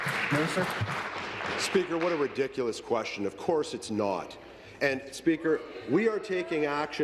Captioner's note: applause